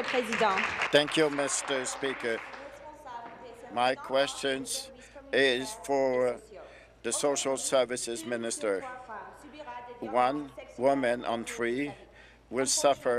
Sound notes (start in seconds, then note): 5.1 speaking in French